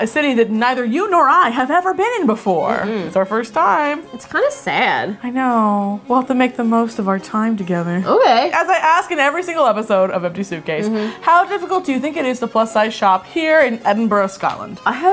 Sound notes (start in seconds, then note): 2.8 hums